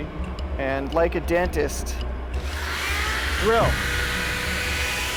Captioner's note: drill squealing